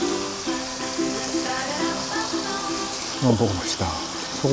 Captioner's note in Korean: 지글 지글